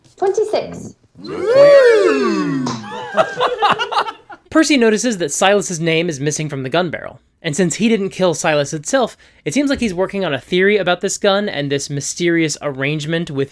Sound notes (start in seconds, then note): 2.6 laughter